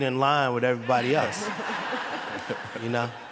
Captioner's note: laughter